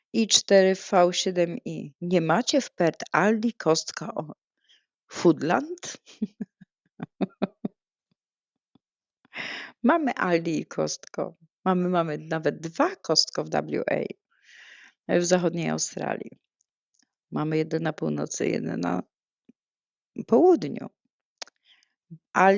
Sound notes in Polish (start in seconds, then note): 6.9 śmiech; 9.3 wciągnięcie powietrza